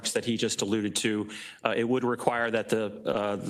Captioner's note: none